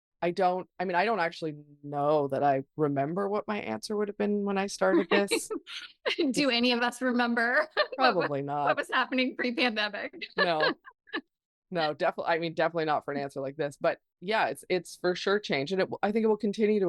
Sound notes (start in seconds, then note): 9.9 laughs